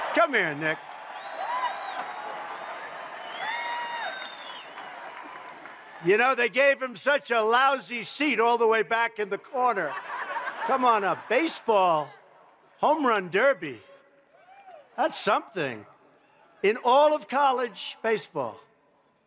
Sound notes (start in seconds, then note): 9.6 laughter